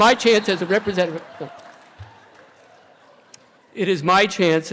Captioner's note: laughter